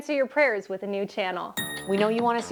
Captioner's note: ding!